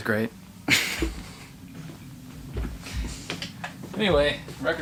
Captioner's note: laughing